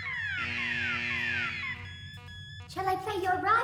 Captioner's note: alarms stop